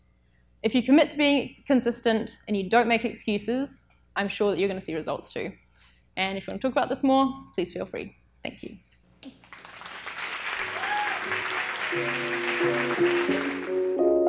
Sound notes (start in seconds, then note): 9.3 audience applauding; 11.9 gentle piano music